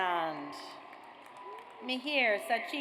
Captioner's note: audience applauds